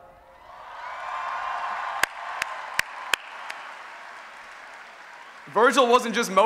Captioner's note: applause and Cheering